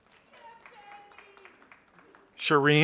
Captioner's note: audience applauding